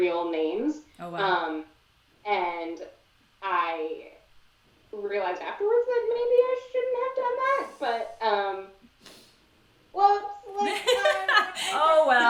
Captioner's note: laughter